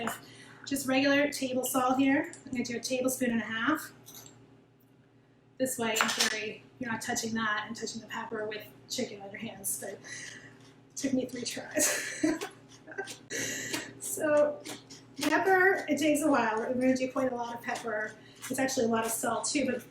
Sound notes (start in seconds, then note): 11.8 laughing; 12.3 pepper grinding